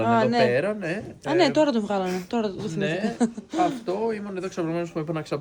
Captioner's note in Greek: γέλια